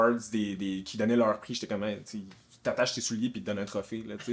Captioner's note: laughs